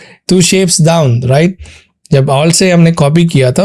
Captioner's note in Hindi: नाक से की जाने वाली आवाज़